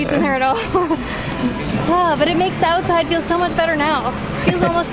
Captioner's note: chuckles